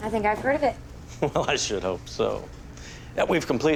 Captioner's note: chuckles